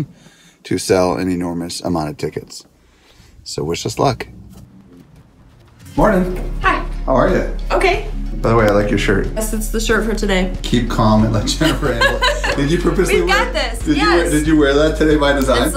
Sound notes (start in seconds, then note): 11.4 laughing